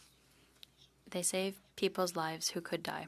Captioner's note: speaking French